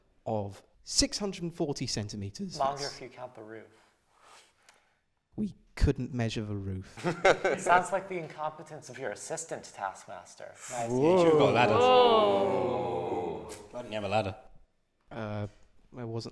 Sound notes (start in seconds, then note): 6.9 laughter; 10.9 they ooh